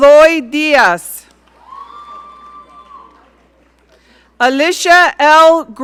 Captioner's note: audience cheering